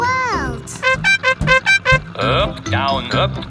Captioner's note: horn beeping